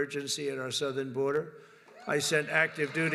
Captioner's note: applause